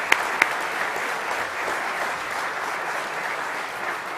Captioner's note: applause